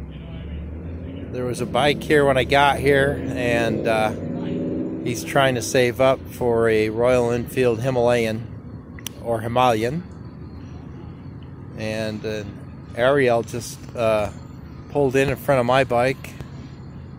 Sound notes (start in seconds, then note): 9.3 different pronunciation